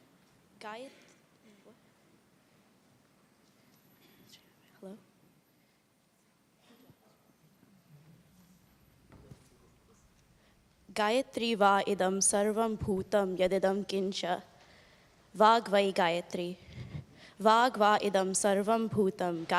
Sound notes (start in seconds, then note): 11.7 non-english speech